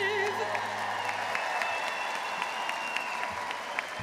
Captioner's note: crowd applauds